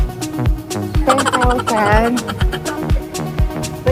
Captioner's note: laughing SFX